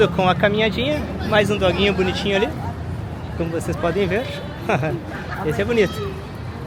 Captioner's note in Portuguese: risadas